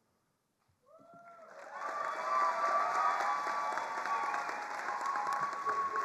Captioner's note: attendees cheering and applauding